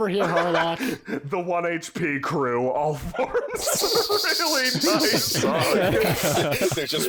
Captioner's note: laughter all around